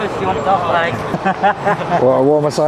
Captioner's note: laughing